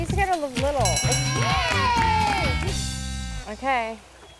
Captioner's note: bell dings